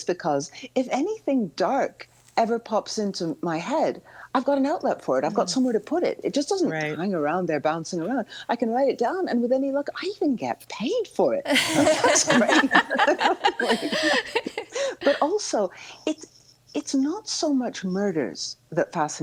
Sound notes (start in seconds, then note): 11.5 all laughing